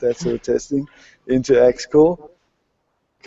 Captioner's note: laughter